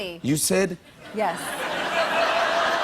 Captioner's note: laughter